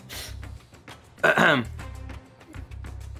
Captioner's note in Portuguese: limpa a garganta